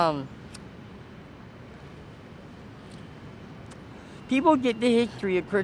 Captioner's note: lighter sparks